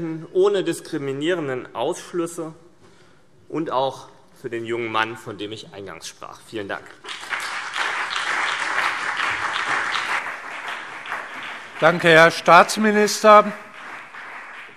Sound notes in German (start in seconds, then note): 7.0 Beifall CDU und BÜNDNIS 90/DIE GRÜNEN